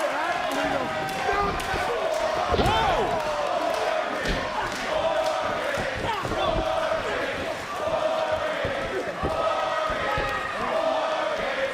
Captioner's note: crowd chants "war games"